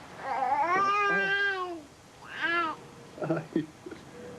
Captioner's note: baby burbles